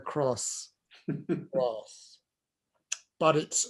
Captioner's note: laughs